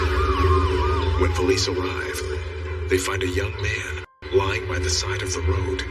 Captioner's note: siren wailsls